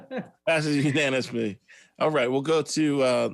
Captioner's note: laughs